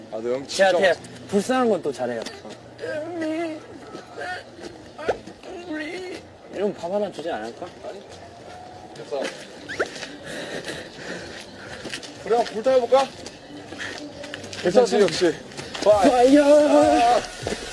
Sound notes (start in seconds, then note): 10.2 panting